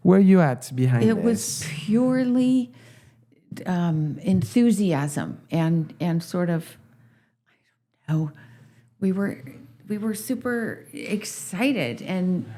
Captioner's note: laughs